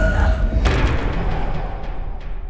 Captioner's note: impact